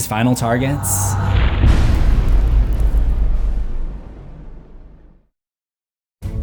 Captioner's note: impact